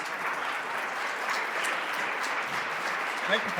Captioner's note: applause